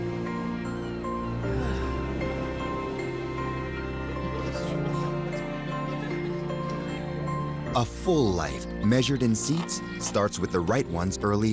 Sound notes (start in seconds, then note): 4.1 laughter and chatter